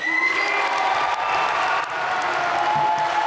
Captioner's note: applause